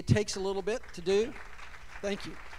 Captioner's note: applause